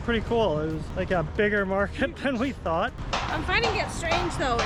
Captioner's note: laughs